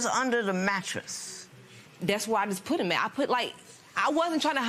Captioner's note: none